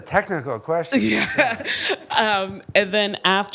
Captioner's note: audience laughing